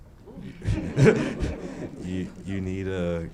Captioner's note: laughing